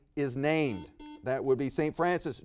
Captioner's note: buzzer beeps